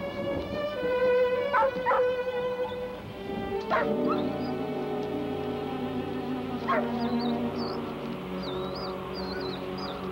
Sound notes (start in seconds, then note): 1.6 Shep barking and whining